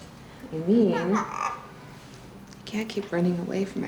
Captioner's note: kitty squawks